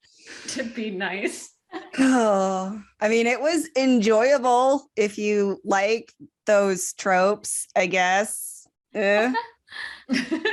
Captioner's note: sighs; chortling